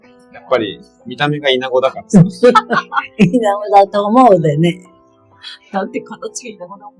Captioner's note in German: lacht